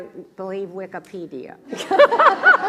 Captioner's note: laugh